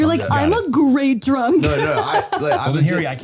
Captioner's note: laughs